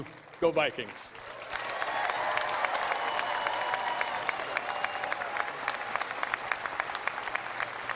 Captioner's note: applause